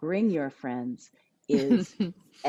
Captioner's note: laughs